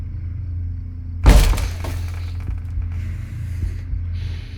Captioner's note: door thudding